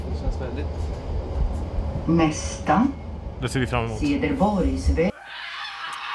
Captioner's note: pre-recorded tram voice robot-thing